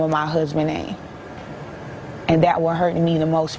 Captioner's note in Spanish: habla en ingés